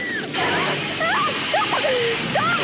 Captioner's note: whoosh